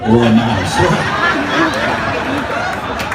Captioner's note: laughter